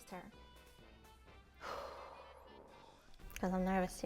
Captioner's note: exhale